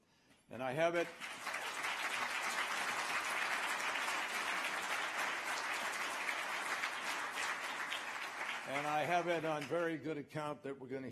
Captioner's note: applause